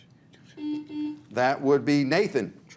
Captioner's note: buzzer buzzes